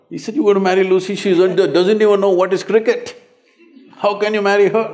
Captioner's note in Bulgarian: смях в залата